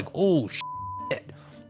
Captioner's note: beep